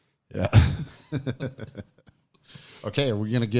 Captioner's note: laughs